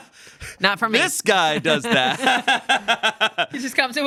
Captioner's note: laughs